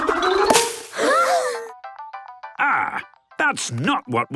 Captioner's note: all gasping